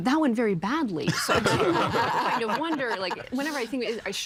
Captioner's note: all laughing